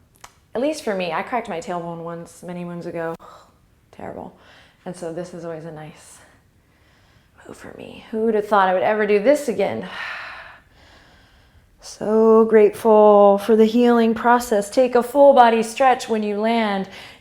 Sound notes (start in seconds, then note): 9.9 exhale